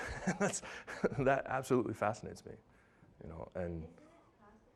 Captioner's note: laughing